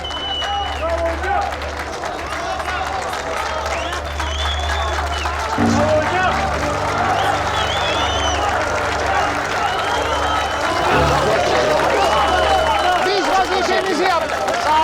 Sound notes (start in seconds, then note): 2.7 they're clapping; 2.7 they're whistling